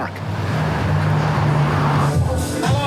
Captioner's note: traffic; dance music